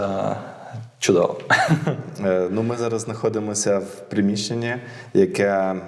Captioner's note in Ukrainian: сміх